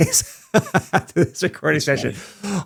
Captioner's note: laughs